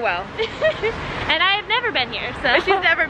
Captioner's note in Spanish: se ríe